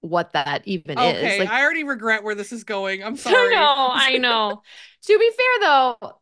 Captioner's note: laughs